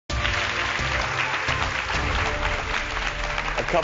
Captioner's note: applause